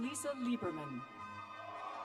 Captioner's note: cheers and applause